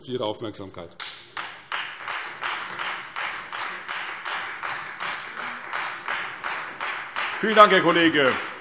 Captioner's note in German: Beifall Freie Demokraten